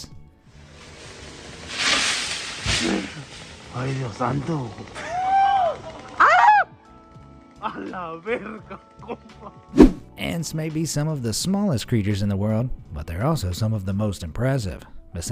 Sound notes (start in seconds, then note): 5.0 man screams